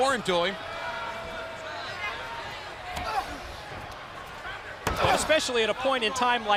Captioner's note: crowd chatter